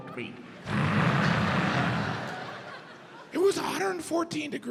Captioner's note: imitates sun crackling